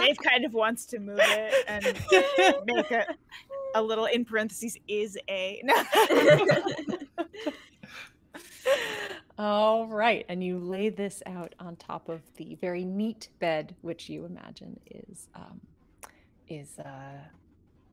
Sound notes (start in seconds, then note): 0.0 all laughing; 5.7 all laughing